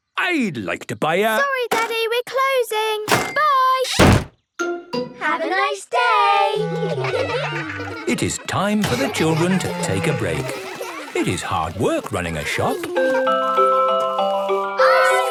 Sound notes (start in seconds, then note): 6.8 children giggling; 12.4 ice cream truck jingle